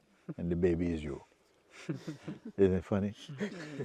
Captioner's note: laughter